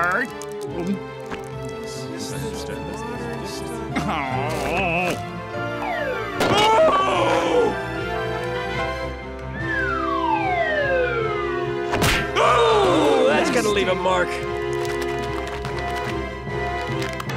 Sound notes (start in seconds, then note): 0.7 gulping; 11.4 thudding